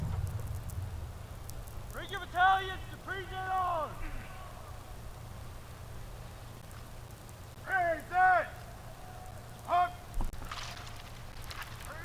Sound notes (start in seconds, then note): 0.8 shouted commands